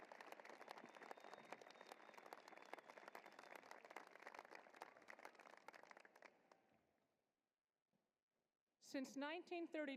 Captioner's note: applause